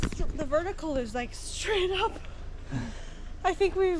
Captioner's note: laughs